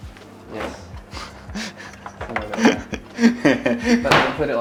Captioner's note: chuckles